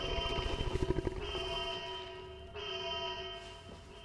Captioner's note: alarm blaring